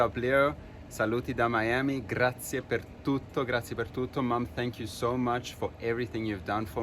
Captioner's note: non-english speech